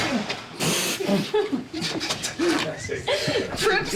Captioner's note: Holland blows raspberry; Zendaya laughs